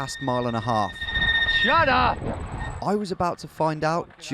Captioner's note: high-pitched squealing